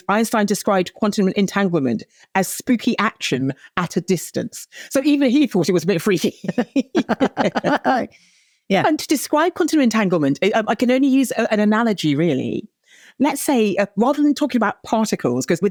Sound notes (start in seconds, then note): 6.1 laughs